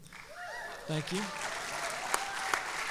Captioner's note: applause and cheering